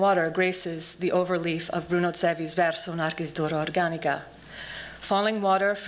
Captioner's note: non-english speech